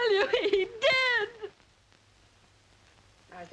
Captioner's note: sobbing